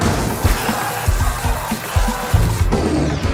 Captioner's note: static screaming